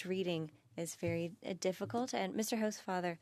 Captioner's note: speaking French